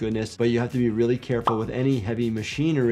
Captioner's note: graphics popping